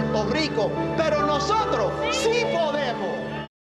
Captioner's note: speaking Spanish